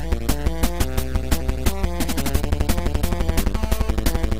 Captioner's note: none